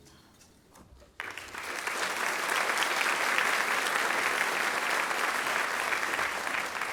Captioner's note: applause